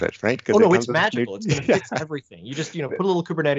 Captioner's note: laughs